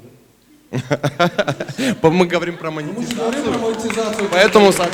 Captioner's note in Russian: смех; аплодисменты